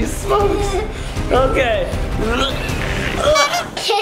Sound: grunts

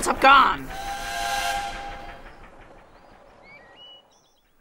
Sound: train Whistles

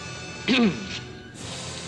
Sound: clears throat

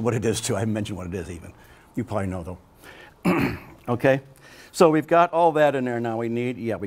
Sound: clears throat

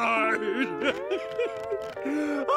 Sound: crying

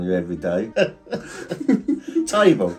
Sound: both laughing

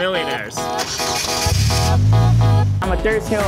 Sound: car engine roaring

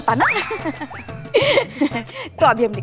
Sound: giggling

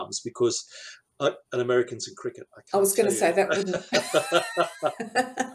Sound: laughter

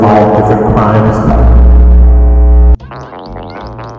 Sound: very loud static

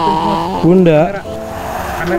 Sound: starts raining

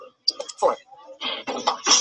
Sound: voiceover

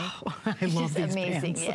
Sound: laughter

